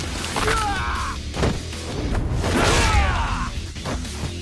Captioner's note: blows thudding; lively music; goon grunting